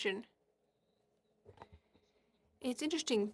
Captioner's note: speaking French